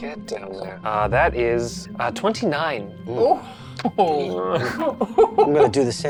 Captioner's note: group giggles